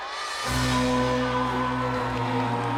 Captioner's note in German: zuschauer jubeln